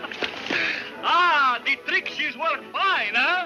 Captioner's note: laughs